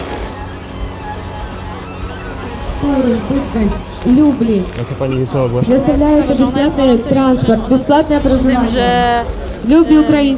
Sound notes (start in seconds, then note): 2.2 voice coming from speaker; 7.1 voice coming from speaker